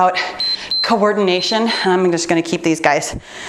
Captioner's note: timer beeps